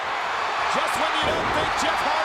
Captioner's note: audience cheering